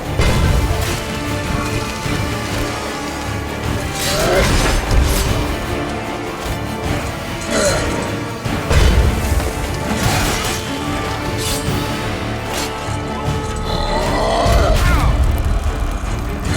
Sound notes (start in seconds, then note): 0.2 thud; 1.3 metal scraping; 4.3 Quen shield crackles; 8.7 thud; 12.7 ground rumbles; 16.0 groan